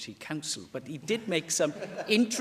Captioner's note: laughter